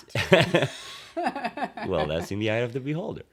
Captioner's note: laughter